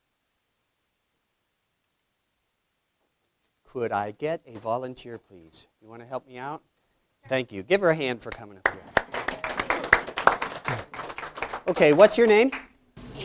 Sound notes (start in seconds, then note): 8.6 audience applause